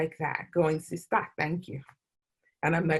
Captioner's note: non-english speech